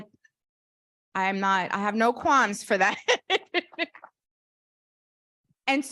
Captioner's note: laughs